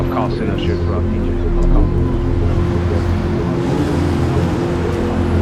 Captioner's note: city sounds